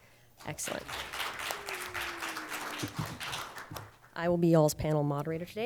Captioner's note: audience applauding